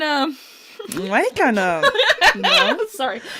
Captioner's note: laughing; laughter